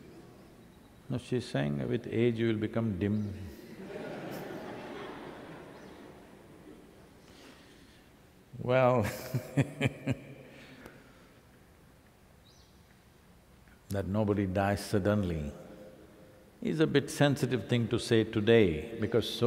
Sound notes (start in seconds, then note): 6.6 laughter; 9.0 laughs